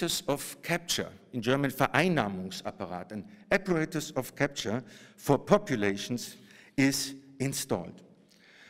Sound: german

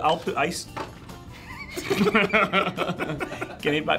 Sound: laughing

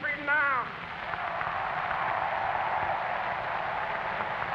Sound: applause

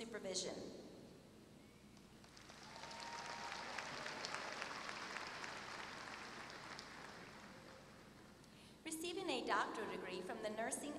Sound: applause

